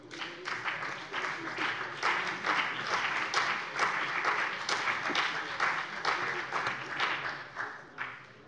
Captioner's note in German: Beifall BÜNDNIS 90/DIE GRÜNEN und vereinzelt CDU